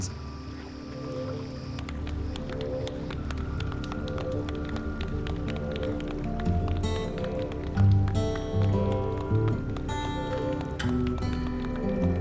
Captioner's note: everyone clapping